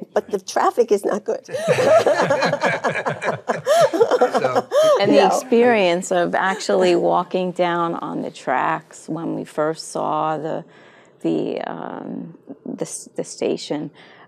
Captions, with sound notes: but the traffic is not good. (all laughing) - And the experience of actually walking down on the tracks, when we first saw the station,